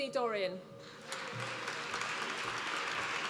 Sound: applause

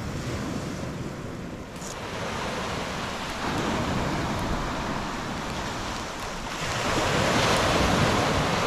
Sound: sound of crashing waves

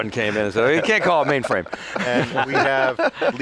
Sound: laughs

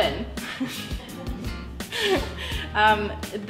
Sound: laughter

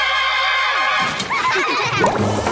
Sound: laughing

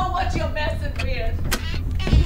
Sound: footsteps approaching from outside

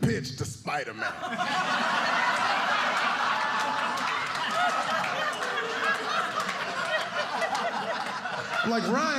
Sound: laughter

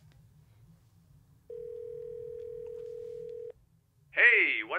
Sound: phone dialing

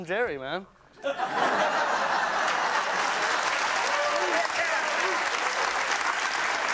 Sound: audience laughing; audience applauding

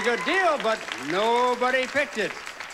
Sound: audience applauding

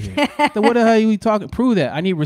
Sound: laughing

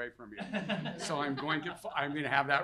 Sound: audience laughing

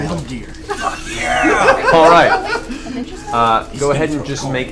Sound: all laugh

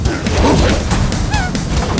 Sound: squeaks

